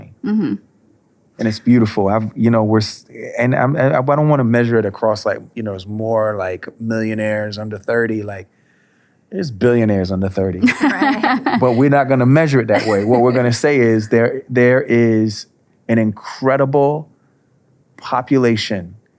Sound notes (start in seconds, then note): 12.5 laughing